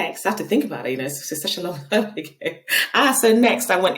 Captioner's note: laughing